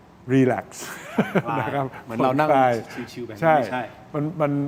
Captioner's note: laughter